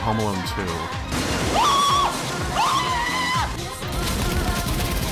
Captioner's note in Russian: крик Марва